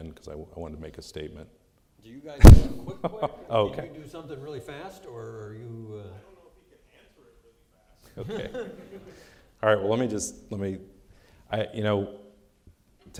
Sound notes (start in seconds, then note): 8.2 laughing